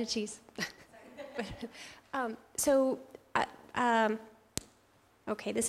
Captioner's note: laugh